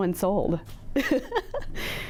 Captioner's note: laughs